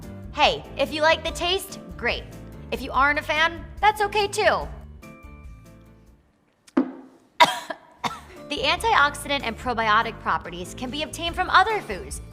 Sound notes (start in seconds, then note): 7.4 coughing